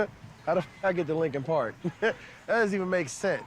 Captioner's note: laughing